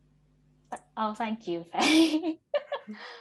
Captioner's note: laughs